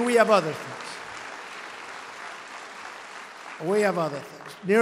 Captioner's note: applause